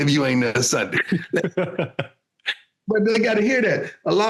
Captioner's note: laughing